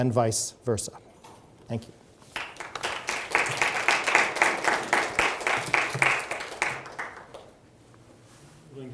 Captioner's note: audience applauds